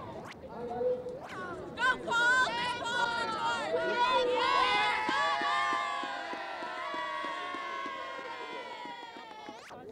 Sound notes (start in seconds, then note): 7.6 cheering; 9.1 ambient noise and chatter